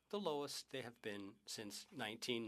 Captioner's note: speaking French